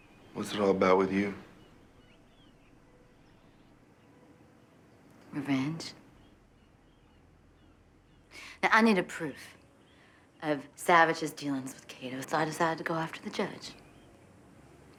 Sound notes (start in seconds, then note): none